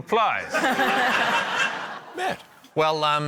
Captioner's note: laughter